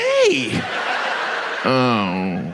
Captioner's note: audience laughs